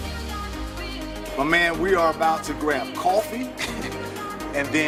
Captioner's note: laughs